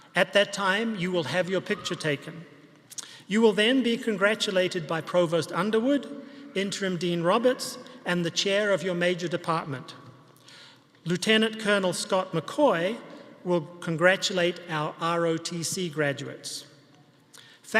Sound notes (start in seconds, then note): none